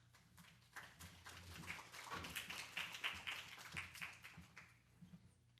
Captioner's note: applause